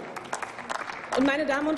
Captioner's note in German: Applaus